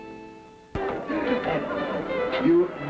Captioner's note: upbeat folk music; people chatting